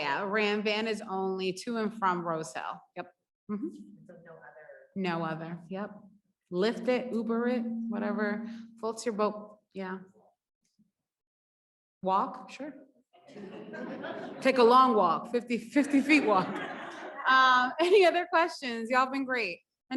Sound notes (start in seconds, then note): 13.2 audience laughs; 15.8 audience laughs; 15.9 laughs